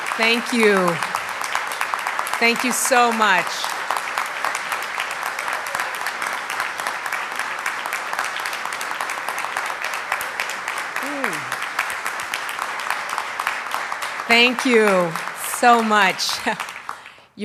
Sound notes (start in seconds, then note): 4.0 applause